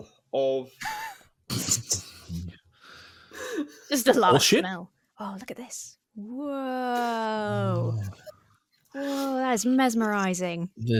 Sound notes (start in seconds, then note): 0.8 laughs